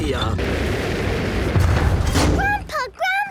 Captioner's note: thuds